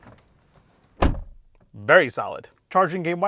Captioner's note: door closes